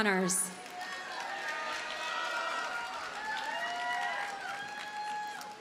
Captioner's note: audience cheers and applauds